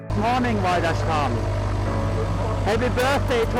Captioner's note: speaks in foreign language